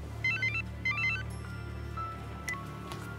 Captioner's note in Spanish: Suena celular